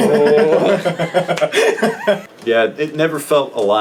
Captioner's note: laughing